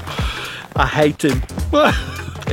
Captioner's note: laughs